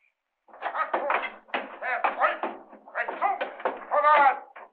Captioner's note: indistinct shouting